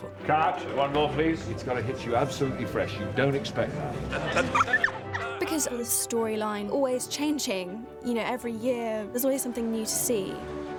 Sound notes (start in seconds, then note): 4.0 laughing